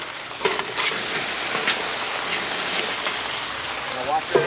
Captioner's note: seafood sizzling